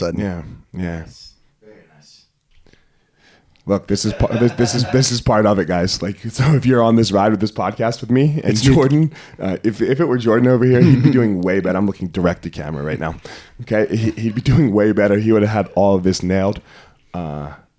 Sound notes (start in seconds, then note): 3.9 laughing